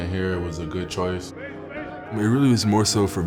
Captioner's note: group chattering